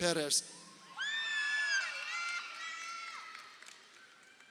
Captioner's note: crowd cheering